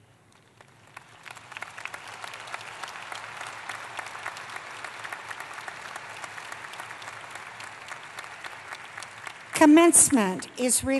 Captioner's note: applause